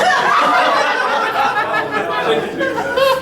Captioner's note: audience laughing